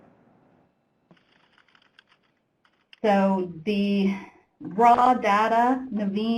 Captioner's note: typing